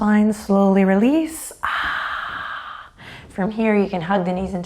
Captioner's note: sighs